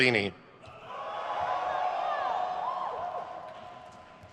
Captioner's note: crowd cheers